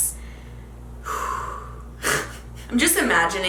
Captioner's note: sighs